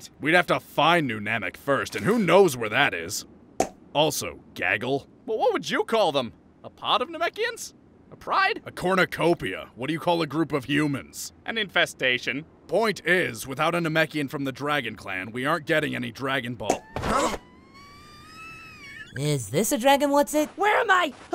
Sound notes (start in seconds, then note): 3.6 pop!; 16.5 pop!; 16.7 high-pitched squealing